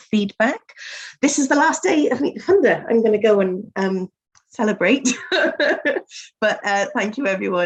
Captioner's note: laughs